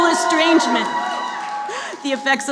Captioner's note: cheering